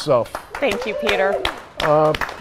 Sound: all applauding

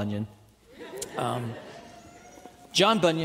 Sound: audience laughing

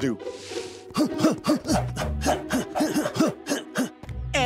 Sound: grunting

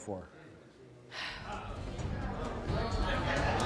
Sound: audience laughs; dramatic music

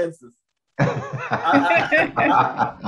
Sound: group laughs

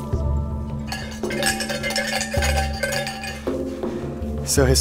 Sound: bell clanking

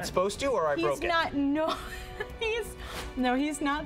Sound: giggling

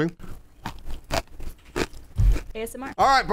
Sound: Intense close-up of Bruce's crunching

